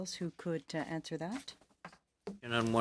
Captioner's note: speaking French